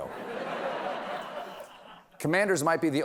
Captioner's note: laughter